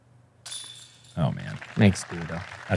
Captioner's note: applause